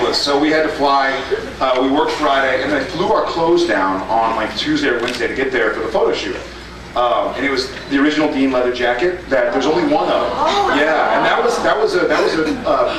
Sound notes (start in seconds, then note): 10.4 gasps